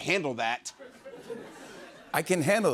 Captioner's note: laughter